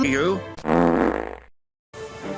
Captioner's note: fart